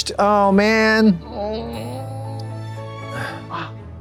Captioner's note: moans